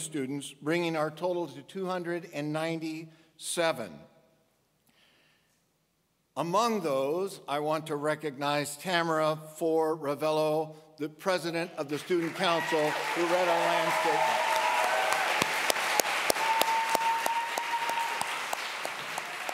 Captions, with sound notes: bringing our total to 297. Among those, I want to recognize Tamara Fore-Ravelo, the president of the student council who wrote our landscape. (audience applause)